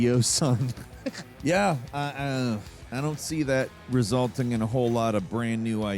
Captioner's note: chuckles